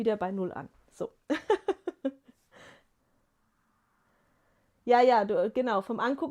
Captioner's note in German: gelächter